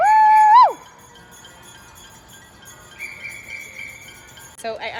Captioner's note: residents cheering